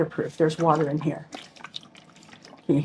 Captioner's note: water sloshing